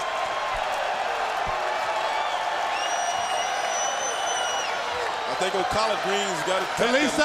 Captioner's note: crowd cheering